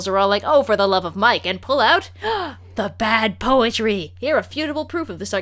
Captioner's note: gasp